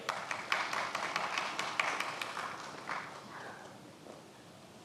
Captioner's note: many applauding